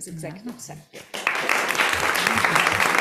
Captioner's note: applause